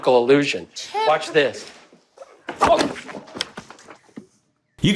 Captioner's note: screams